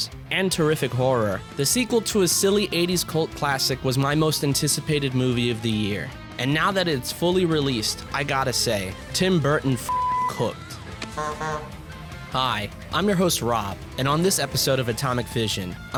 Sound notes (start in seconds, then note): 9.7 cussing; 9.9 honk honk